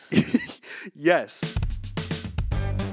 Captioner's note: laughs; energetic music